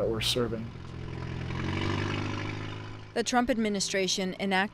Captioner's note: truck engine revving